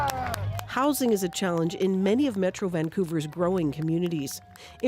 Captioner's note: applause